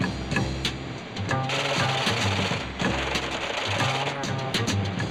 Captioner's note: machine clicking; jazz beat